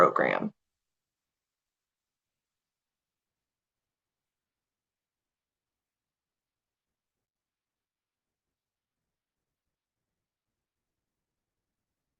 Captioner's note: pause